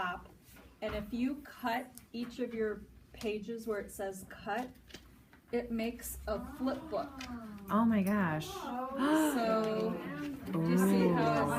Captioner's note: audience Ooo's!